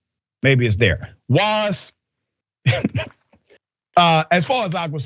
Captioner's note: laugh